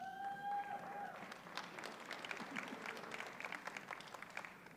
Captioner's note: audience cheers and applauds